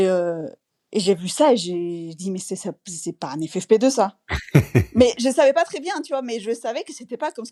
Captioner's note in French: rires